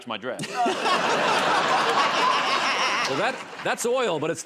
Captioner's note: laughter